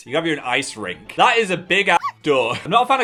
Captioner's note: dog bark